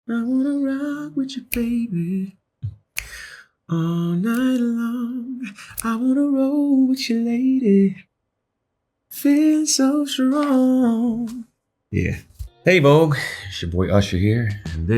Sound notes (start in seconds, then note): 1.5 snapping fingers